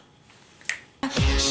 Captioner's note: snap